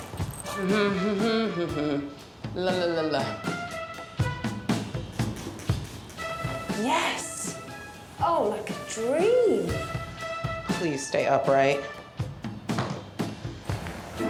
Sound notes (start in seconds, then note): 0.6 humming; 5.3 spraying